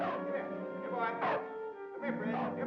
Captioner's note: man whistling to dog; dog barks